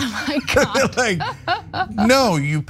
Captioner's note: laugh